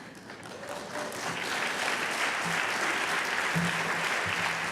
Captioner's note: applause